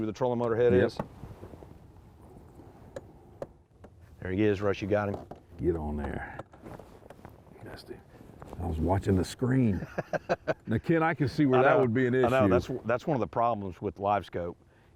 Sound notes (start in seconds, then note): 9.7 laughter